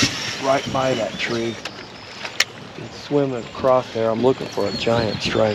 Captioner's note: reel spinning; rod whipping